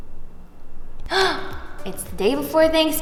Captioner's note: gasps